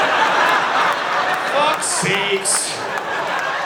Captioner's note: audience laughing